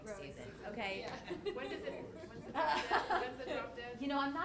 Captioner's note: people chattering